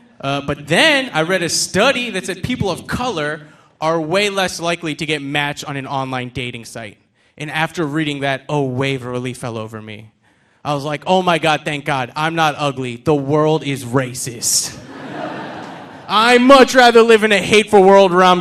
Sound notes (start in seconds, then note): 14.8 audience laughing